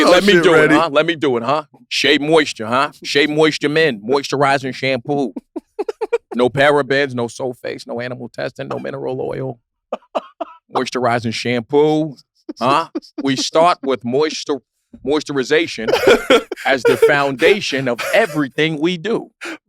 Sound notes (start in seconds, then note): 5.4 laugh; 12.5 laugh; 15.8 laughing